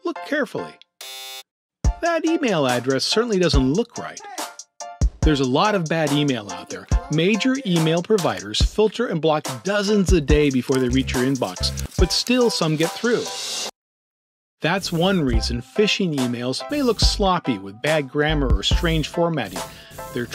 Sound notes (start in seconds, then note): 1.0 buzz